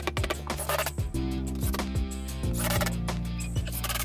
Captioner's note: drill whirring